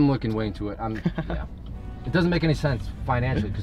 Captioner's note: laughs